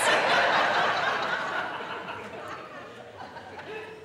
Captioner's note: audience laughing